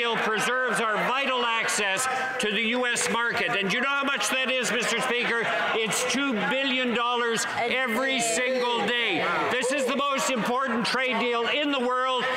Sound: some Applause

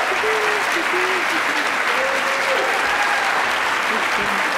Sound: attendees applauding

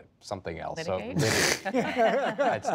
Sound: laughter

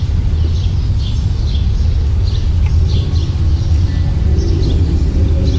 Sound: birds are chirping

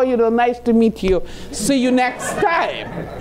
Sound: laughing

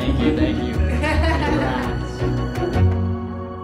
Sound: laughing

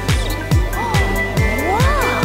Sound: gasping

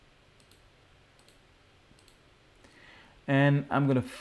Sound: clicking

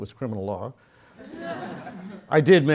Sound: laugh

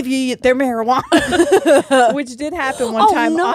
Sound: both laughing

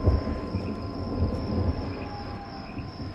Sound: thunder roaring

